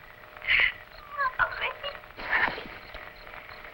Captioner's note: sobbing